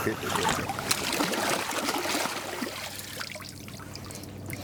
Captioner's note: water splashing